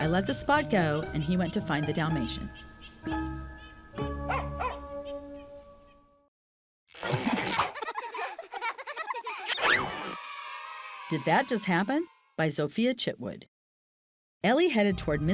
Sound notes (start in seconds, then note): 4.2 dog barking; 7.2 children laughing